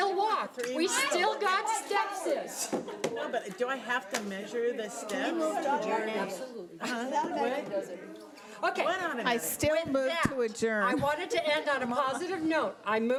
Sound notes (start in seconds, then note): 5.5 people chattering loudly